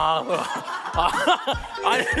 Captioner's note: laughing